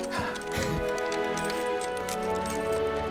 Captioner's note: chuckles